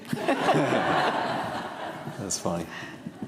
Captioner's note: audience laughing